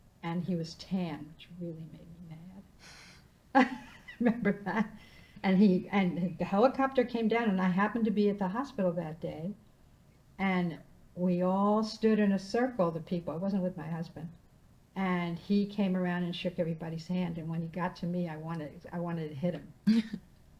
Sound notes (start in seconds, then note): 3.6 laughing